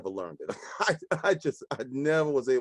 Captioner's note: laughing